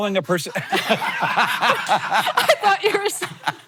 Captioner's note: both laughing